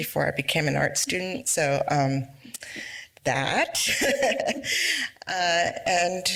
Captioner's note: laughs